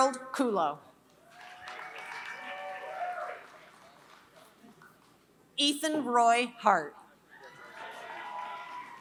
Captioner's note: applause